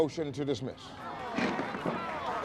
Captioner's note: applause